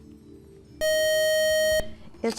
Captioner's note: buzzer